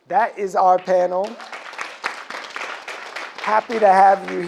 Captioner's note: audience claps